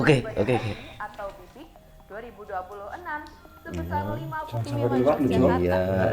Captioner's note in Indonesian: Suara TV menyala